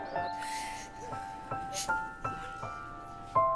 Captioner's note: Poonam crying